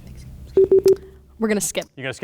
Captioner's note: beep